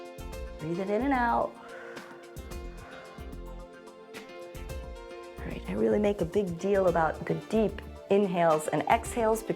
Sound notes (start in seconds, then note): 1.5 exhales